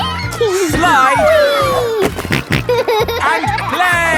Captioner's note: giggles; snorting